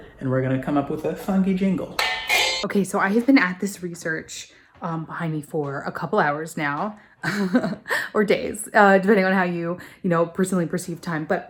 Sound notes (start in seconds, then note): 2.0 jingle music; 7.2 nervous laughter